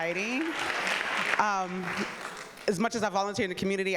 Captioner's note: audience applauding